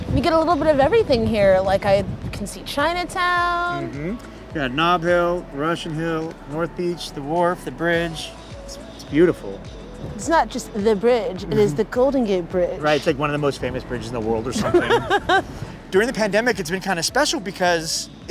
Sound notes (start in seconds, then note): 14.6 laughing